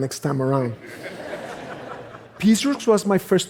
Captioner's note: laughter